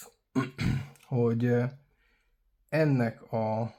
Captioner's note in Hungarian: köhögés